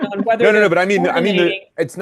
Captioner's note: laughs